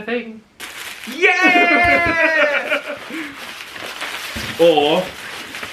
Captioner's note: plastic crinkling